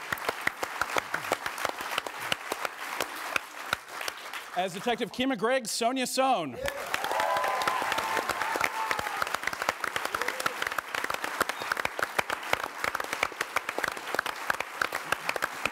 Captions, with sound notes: -As Detective Kima Greggs, Sonja Sohn. -(AUDIENCE APPLAUDS)